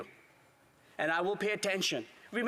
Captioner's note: speaking Latin